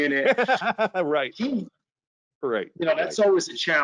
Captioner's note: laughing